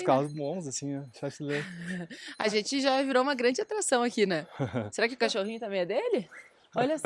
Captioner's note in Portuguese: risadas